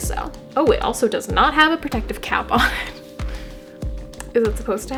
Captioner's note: nervous laughing